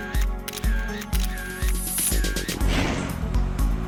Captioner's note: camera clicks